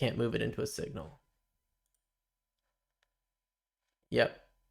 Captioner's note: silence